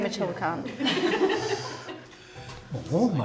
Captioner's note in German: Lachen